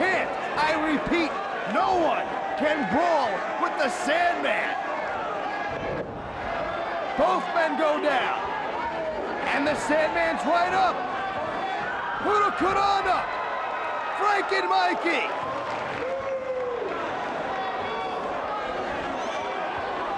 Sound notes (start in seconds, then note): 13.5 audience cheers